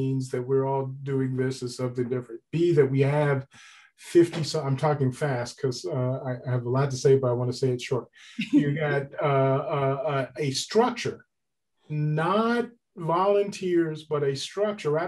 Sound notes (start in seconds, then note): 8.4 laughs